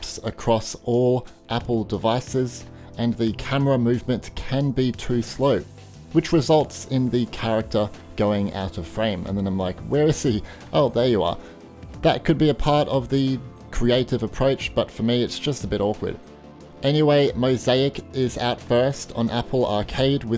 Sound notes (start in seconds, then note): none